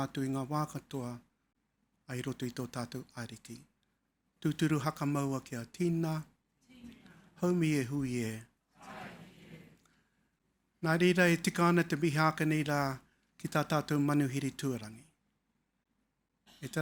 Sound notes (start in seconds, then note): 7.1 audience answering in foreign language; 12.0 speaking in foreign language